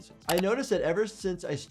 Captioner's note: keyboard keys clicking